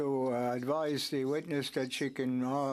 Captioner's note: speaking French